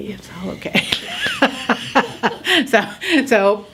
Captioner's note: laughs